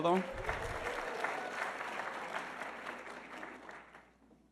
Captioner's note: audience applauding